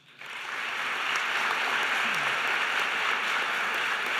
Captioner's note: applause